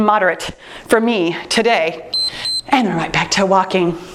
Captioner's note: timer beeps